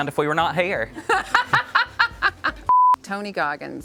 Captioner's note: laughing